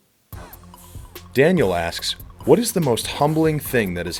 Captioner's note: voiceover